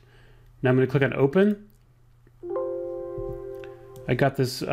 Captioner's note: soft dings